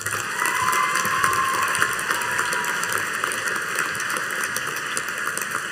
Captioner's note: audience cheering and applauding